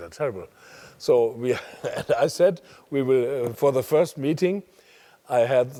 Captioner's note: laugh